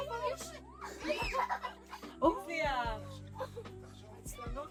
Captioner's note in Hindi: हंसी